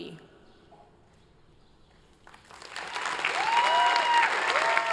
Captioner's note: applause